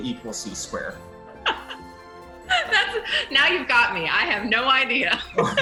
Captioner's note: laughs